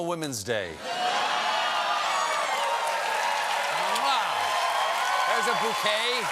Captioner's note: cheers and applause